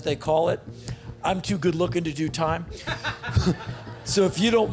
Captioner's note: laughs